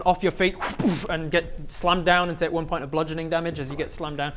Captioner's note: whbooof